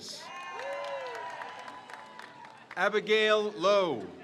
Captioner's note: crowd cheers